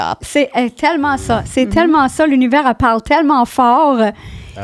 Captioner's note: in french